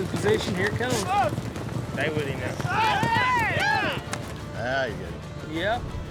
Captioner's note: all shouting